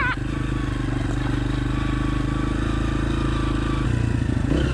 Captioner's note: bike engine running